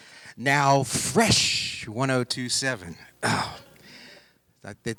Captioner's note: groaning